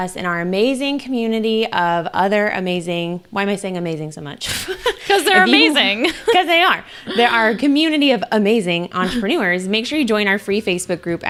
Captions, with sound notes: and our amazing community of other amazing, why am I saying amazing so much? (laughs) - 'Cause they are amazing. (laughs) - 'Cause they are. They are a community of amazing entrepreneurs. Make sure you join our free Facebook group